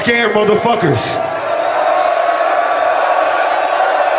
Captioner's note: crowd Cheering